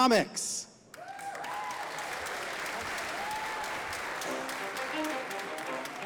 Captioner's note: audience applauding